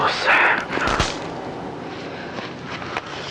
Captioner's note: twig breaking